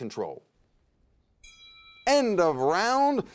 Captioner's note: bell dings